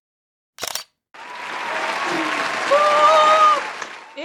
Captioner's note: applause